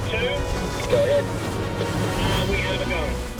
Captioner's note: man on radio